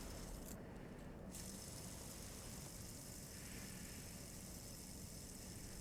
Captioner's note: fidget spinner whirring